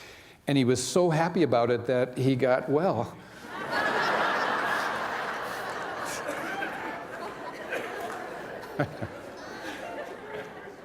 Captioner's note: laughter